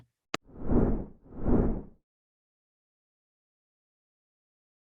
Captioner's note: graphics whooshing